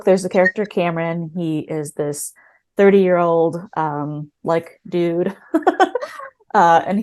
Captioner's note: laughs